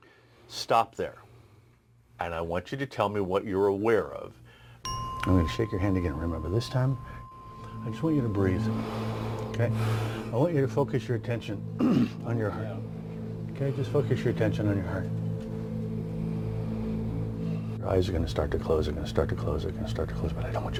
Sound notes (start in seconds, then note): 8.3 tense music; 8.7 breathing